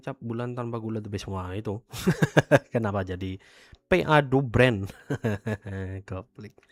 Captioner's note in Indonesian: tertawa